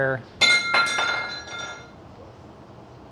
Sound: clinking

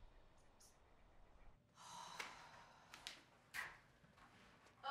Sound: sighs

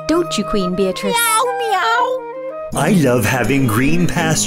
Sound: meowing

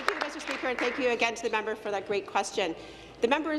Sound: applause

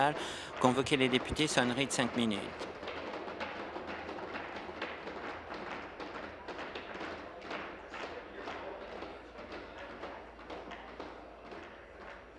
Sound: tapping of desks

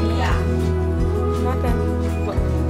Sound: none

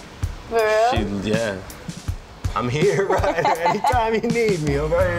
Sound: laughs

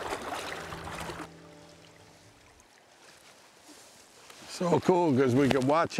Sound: water whilring

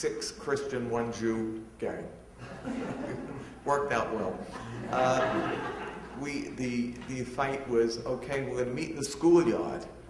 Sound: audience laughter

